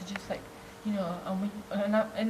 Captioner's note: stutters